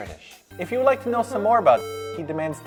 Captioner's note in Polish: beep